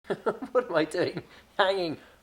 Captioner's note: laughs